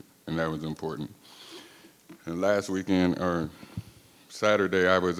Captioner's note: none